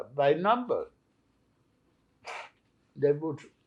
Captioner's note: wiping nose